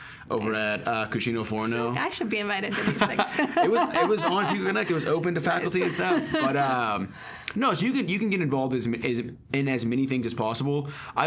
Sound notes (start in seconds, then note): 2.8 laughing